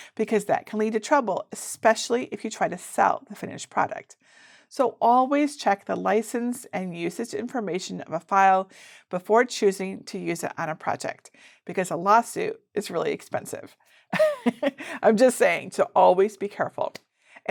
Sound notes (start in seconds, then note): 14.2 laughs